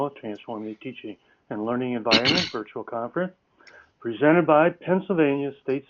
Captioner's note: cough